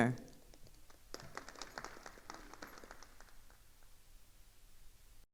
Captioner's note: attendees applauding